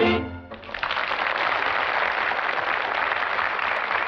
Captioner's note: applause